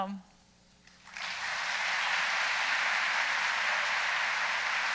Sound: audience applauding

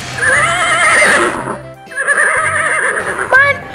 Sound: horse neighs

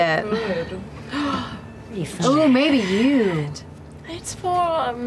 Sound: gasps

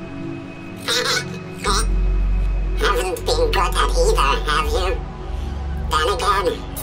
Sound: laughs

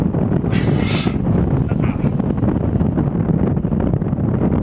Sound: man groaning

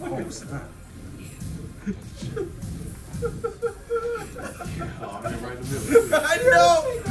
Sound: laugh

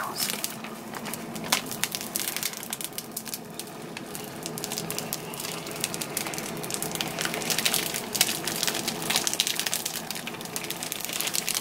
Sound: peeling sounds

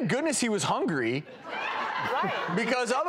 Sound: audience laughs

